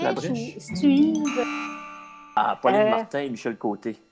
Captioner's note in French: signal sonore de mauvaise réponse